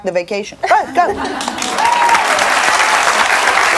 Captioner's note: audience cheers